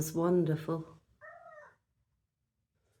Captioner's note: meow